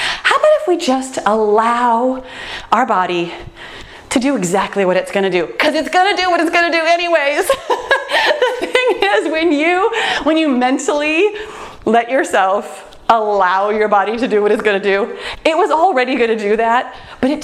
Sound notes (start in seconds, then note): 7.4 laughs